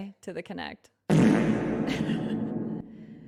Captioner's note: reverb fart